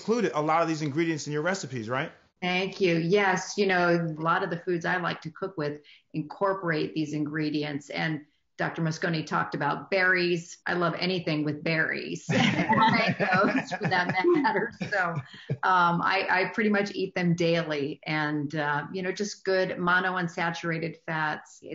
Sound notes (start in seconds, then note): 12.2 laughing; 12.3 laughing drowns out speaker